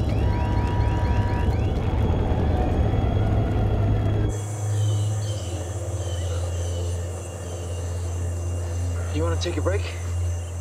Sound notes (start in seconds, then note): 4.3 birds squawking